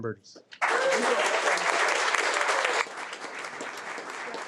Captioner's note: audience applauding